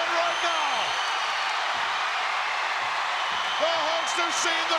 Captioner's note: crowd cheering